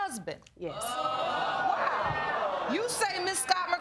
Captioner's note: audience groaning